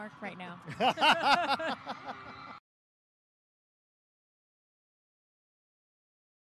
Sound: fans cheering; group laughing

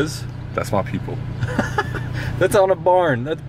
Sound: laughter

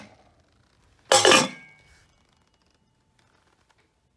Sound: lid clatters

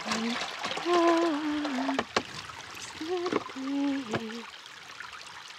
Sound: humming

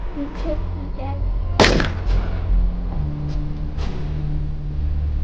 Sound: weapon firing

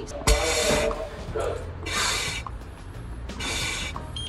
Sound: air whooshing

